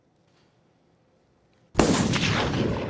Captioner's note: gunshot